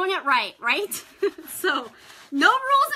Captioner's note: laughs